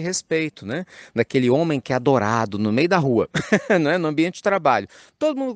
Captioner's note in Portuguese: risos